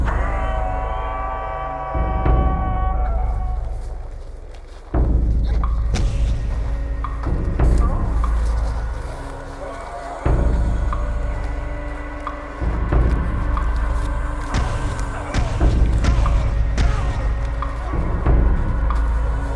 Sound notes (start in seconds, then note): 0.0 unearthly howl; 5.8 blows land; 14.5 blows land; 14.5 grunting